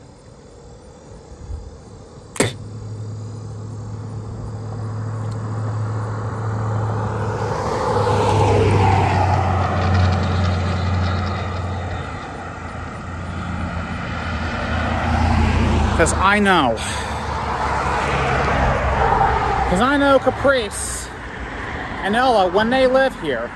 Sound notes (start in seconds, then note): 2.4 Ava spits a third time; 3.1 Traffic on Paulding Road